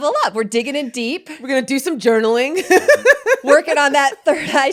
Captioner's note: laughs